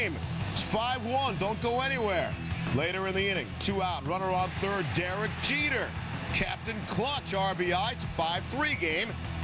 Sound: audience boos

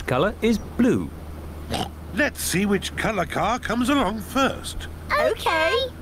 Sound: oinks

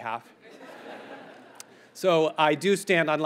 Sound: audience laughs

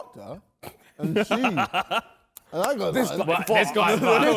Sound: men laughing

